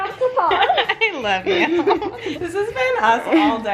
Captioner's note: laughs